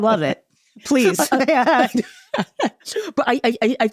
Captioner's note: laughs